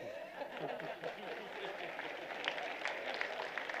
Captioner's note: applause